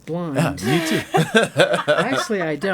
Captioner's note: laughing